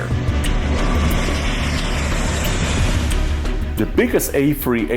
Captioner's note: engine sound